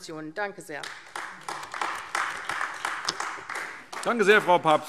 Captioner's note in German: Beifall AfD